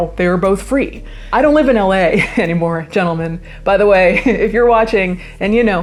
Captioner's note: laughs